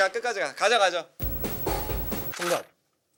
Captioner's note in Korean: 쿵쿵 딱 쿵쿵